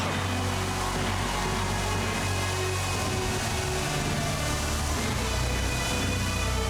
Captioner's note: fireworks crackling; upbeat marching music